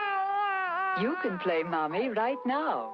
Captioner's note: baby crying